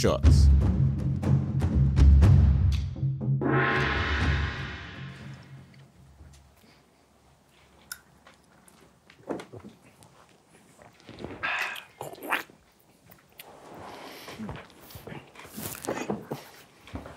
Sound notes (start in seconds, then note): 0.2 ominous drum music; 3.4 gong banging; 9.0 group gulps shots